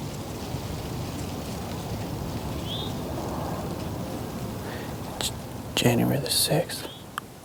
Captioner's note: whispering